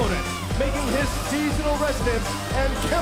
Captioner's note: crowd cheering